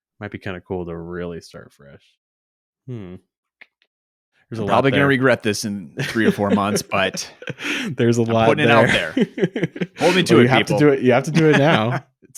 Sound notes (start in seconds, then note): 9.0 laughs